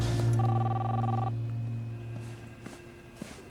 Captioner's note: ring